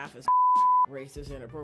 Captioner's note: beep